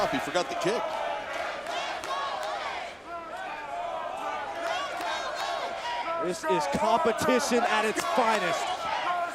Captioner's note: applause; applause